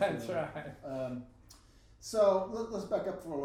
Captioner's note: laughing